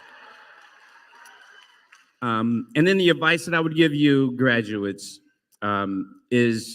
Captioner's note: applause